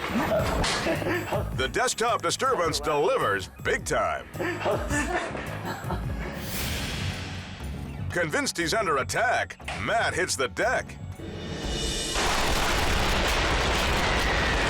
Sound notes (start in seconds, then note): 6.5 transition whooshes; 11.6 gunfire erupts